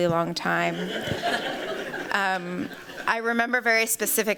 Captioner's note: laughter